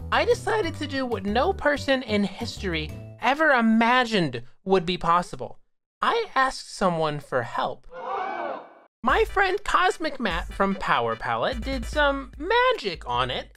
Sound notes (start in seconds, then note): 8.0 =audience gasps